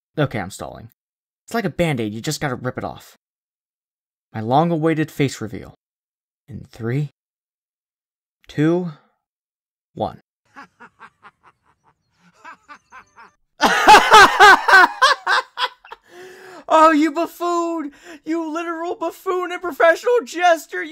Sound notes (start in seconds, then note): 7.8 black screen that jump cuts to a laugh track